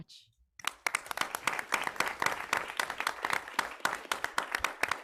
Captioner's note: people clapping